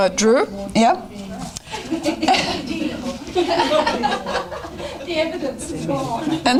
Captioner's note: audience chatter